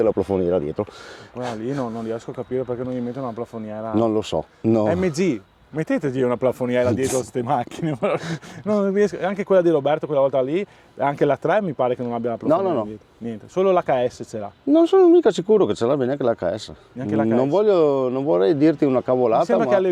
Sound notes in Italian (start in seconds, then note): 7.6 risate